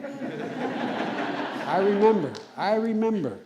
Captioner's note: laughter